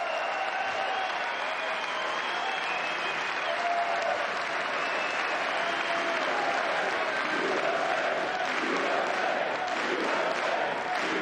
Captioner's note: cheers and applause